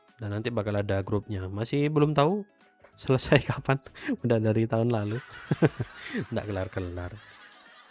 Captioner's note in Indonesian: tertawa